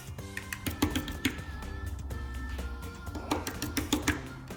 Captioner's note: paint tapping